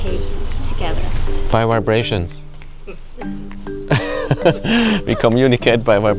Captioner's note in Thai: เสียงหัวเราะ